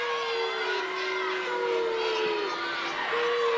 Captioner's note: crowd booing